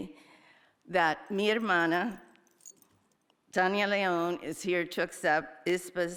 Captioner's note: speaker speaking in a foreign language